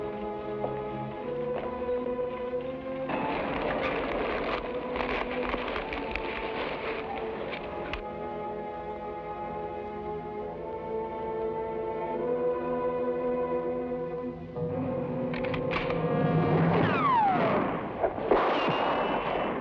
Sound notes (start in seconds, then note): 3.2 fabric rustles; 10.3 somber music; 15.3 gun clicks; 15.4 gunshots blast